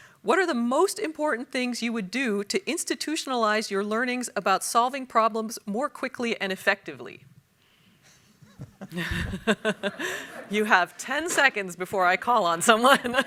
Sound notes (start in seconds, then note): 8.4 panelists laugh; 13.0 audience laughs